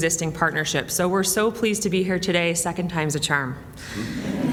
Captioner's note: laughter